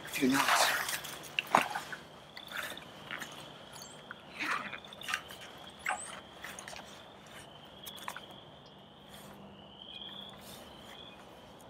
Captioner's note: rustling and frog calls